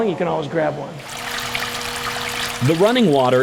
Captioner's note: water trickling